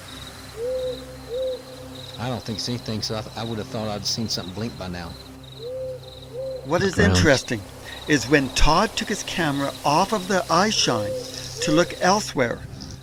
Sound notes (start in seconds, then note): 0.0 crickets chirping; 0.5 owl hoots